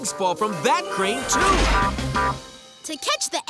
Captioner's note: beeping